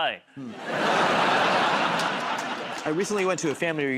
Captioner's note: laughter